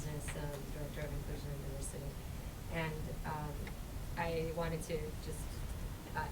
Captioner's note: voice muffled